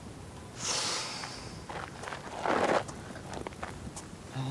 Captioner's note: Dayne exhaling